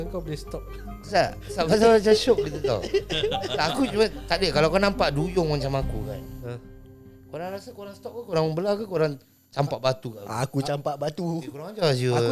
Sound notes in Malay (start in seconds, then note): 1.7 ketawa